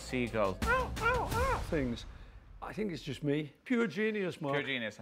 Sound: imitates seagull

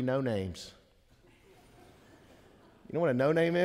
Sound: congregation laughing

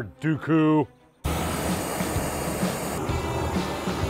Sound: flame gun fire whooshing; upbeat music

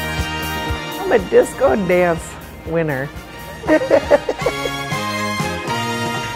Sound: laughs

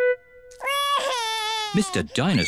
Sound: wails

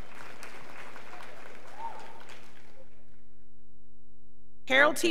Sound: scholars applauding

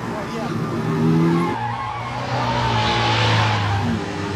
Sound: tires squealing

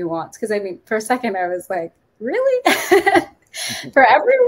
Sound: chuckles

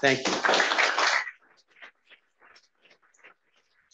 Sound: applause

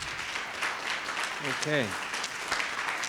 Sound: attendees applauding

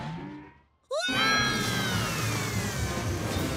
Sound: screaming

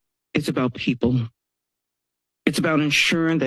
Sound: pause

